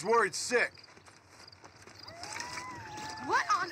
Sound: footsteps and animal howling

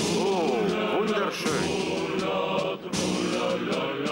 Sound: western accent

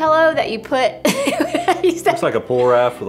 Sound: laughs

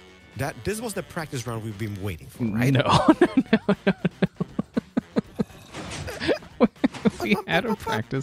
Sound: laughing

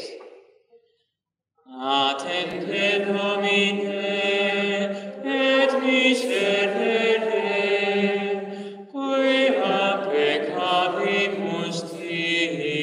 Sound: chant

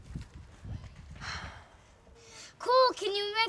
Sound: Alex sighs

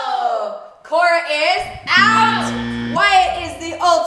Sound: buzzer

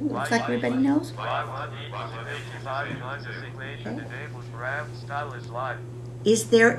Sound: laughter

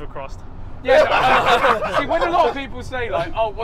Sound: everyone laughing

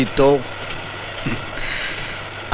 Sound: chuckles

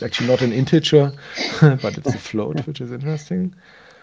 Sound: both laugh

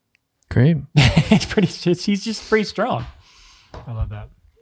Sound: laughs

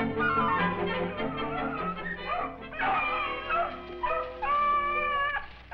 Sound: beagle baying

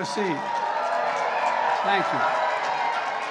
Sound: applause

